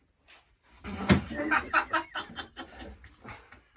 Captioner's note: laugher